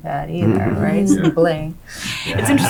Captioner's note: affirmative murmurs; laughing